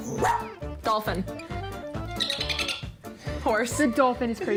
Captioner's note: barks; clicks